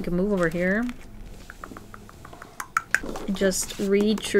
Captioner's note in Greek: τς τς τς